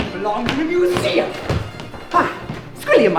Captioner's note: scoffs